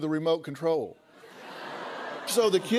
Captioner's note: laughter